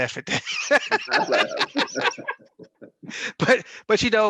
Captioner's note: laughs